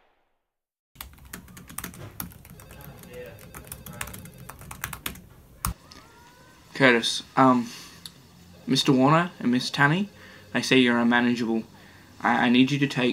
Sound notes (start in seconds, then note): 0.9 typing on keyboard